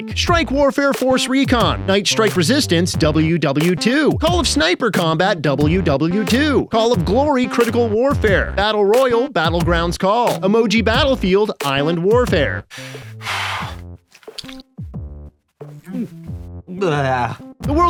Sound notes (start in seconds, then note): 12.7 inhales and exhales sharply; 14.2 squishes; 15.8 gags